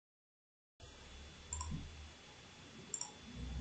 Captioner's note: clickity-click